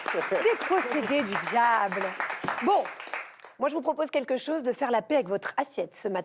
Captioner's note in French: applaudissements